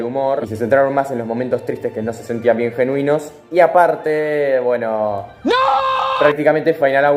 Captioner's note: scream